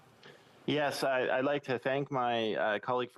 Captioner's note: speaking alternate language